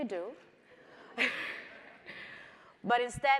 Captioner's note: chuckles